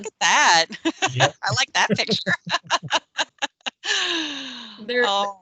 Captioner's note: laughing